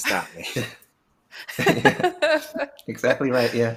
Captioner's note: chuckling